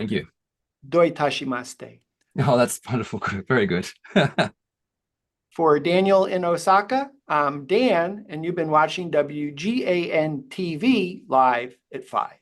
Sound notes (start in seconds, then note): 4.0 chuckles